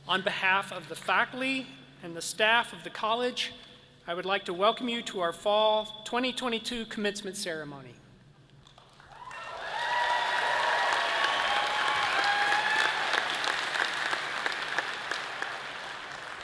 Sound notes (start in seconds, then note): 9.0 all cheering and applauding